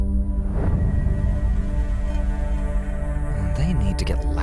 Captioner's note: distant wailing